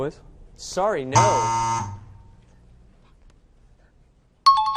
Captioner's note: wrong answer buzzer; out of time alarm